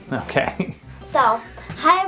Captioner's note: laughs